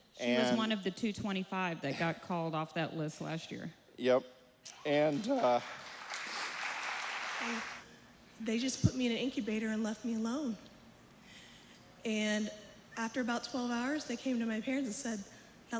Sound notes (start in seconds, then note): 4.8 applause